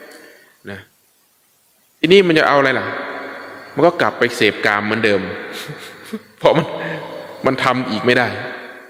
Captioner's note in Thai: เสียงหัวเราะ